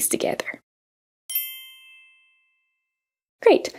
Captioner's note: bells chiming